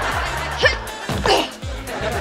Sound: grunting

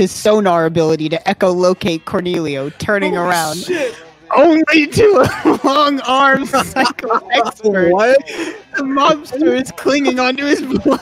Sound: all laughing

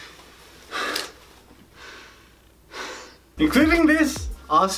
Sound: breathes heavily

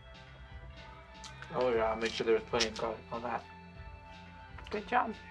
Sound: chewing

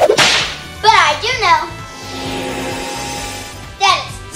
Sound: whip cracking; magic trill

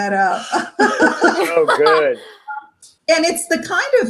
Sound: members laugh

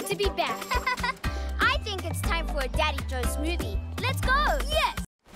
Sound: chuckles

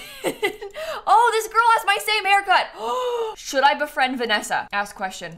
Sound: gasps

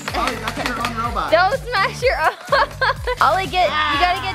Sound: laughs

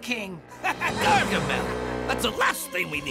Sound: laughing

